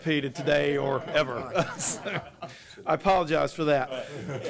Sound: laughter

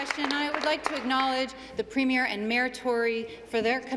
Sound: applause

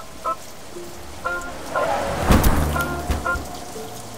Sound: fence rattles

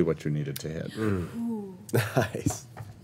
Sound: group sighs

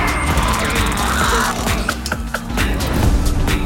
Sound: laughing

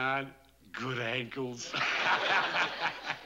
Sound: laughs

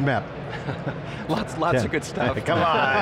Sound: laughter

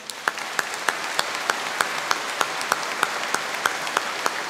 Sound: all applauding

